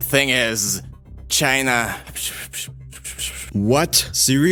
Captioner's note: whisper